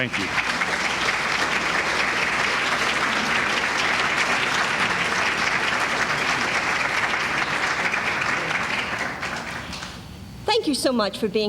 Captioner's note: applause